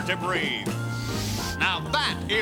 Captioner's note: sniffs